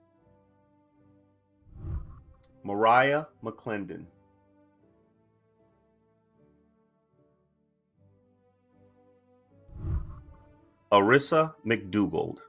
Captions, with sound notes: (whooshing) Mariah McClendon. (celebratory music) (whooshing) Arissa McDougald.